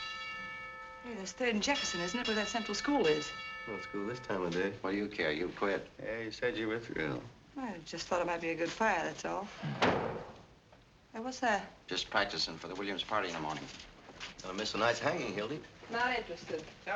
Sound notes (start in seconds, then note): 9.6 thuds